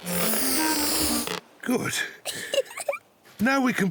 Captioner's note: giggles